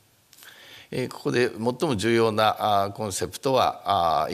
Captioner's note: speaking japanese